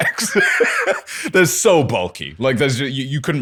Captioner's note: laughter